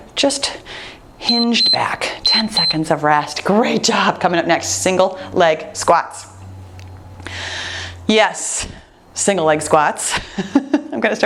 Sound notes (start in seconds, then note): 2.2 timer beeps